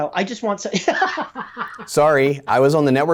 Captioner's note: laughing